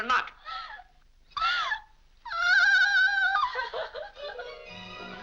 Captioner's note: Mary cries out; upbeat music